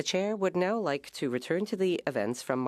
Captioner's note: speaking French